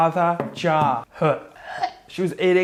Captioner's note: gagging loudly